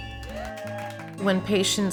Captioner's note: doctors cheering